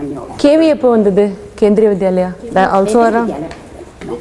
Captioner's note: in Tamil